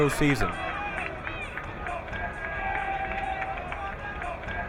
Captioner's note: crowd cheering